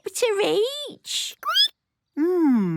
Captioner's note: squeaking